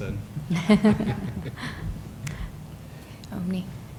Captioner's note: laughter